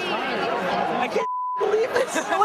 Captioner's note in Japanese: ビープ音